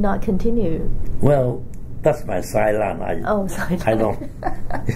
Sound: laughs

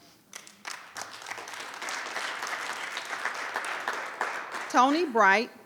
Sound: audience applauds

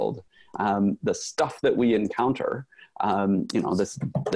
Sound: raps knuckles on desk

